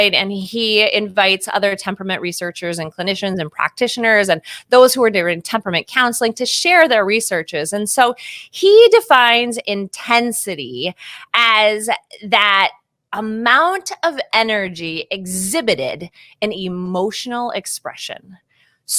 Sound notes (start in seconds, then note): none